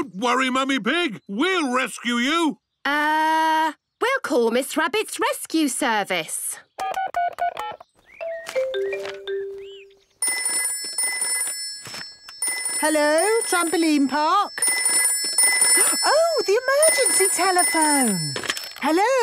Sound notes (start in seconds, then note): 8.2 phone beeping; 10.2 phone ringing; 15.1 phone ringing